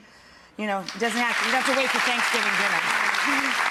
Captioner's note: audience clapping